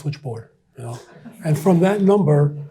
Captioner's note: audience chuckles